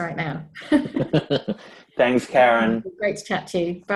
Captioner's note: laughs